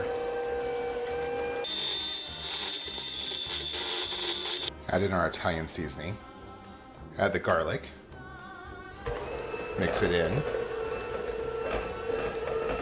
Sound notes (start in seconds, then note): 0.3 whirring; 1.6 rapid whirring; 10.4 whirring